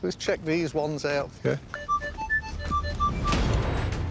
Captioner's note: beeping sounds